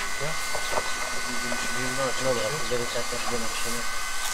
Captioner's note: machine whirring, unintelligible conversation